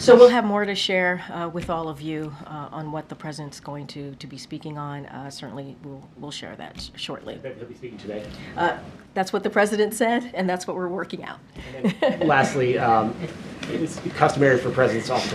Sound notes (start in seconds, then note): 11.6 laughs